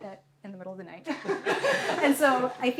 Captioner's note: laughter